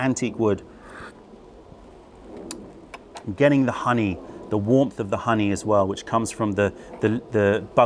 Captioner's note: sips tea